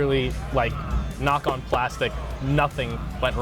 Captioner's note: hand thudding